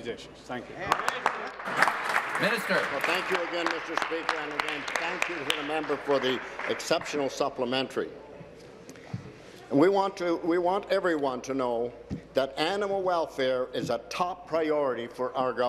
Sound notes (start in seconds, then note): 4.3 applause